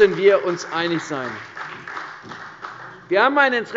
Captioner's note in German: Beifall bei der CDU und dem BÜNDNIS 90/DIE GRÜNEN